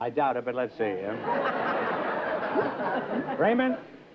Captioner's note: laughter